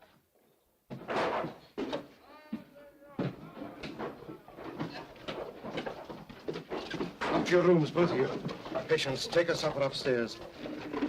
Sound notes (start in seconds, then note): 0.9 banging; 2.4 men clamoring; 10.9 sounds of scuffling & struggling